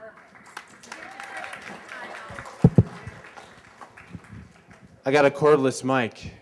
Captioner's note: applause